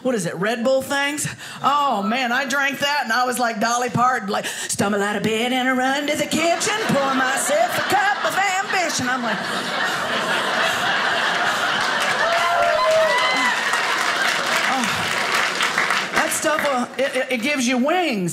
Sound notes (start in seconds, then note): 9.0 audience laughing; 12.0 audience applauding